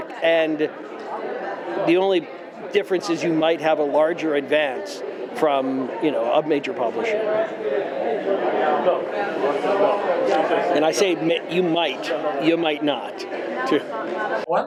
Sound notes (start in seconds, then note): 7.4 convention goers chattering